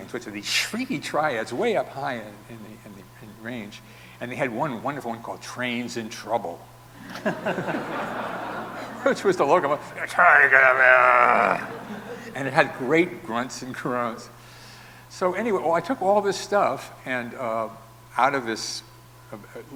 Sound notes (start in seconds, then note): 7.0 audience laughing; 10.0 vocalizing and grunting